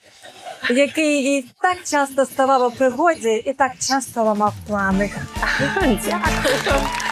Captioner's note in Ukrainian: сміх